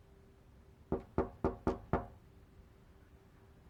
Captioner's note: knocking